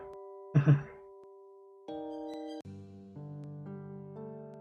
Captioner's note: chuckles